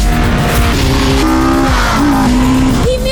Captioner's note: engines roaring